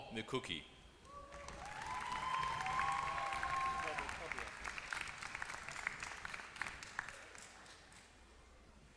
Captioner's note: applause